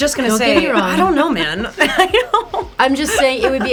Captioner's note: laughs